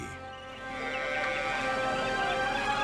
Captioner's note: cattle mooing